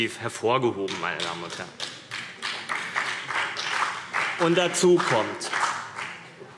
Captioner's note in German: Beifall CDU und BÜNDNIS 90/DIE GRÜNEN